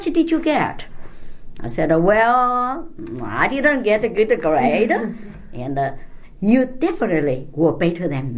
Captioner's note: laughs